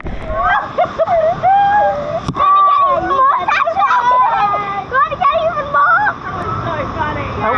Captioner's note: LAUGHTER and SHOUTING